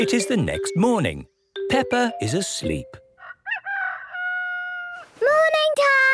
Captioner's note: cock-a-doodle-doo